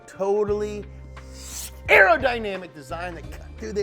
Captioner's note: whooshing